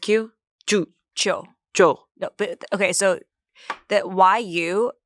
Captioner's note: speak foreign language